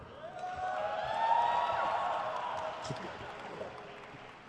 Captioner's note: crowd cheers